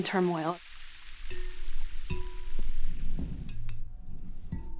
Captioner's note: tapping